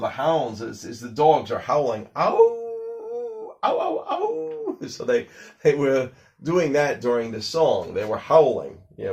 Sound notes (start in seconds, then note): 2.4 howling sounds